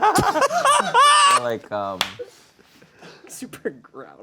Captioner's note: laughing